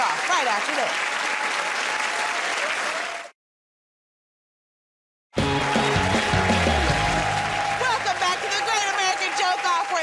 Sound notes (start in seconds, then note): 3.0 cheers and applause; 5.3 cheers and applause